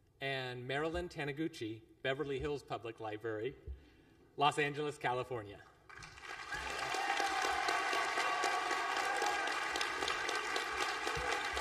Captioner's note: applause